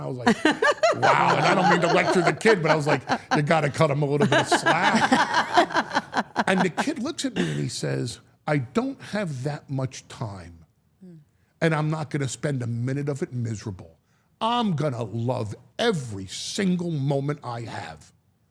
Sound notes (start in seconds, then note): 5.1 all laughing